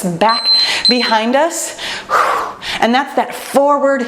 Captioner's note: timer beeps; breaths heavily